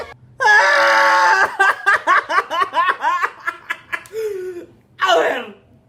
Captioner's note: breaks down in tears